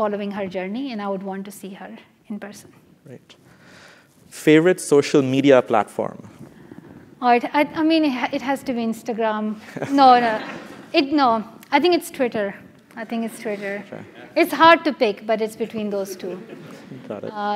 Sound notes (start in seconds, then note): 9.6 laugh